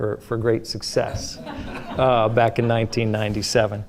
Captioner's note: audience laughing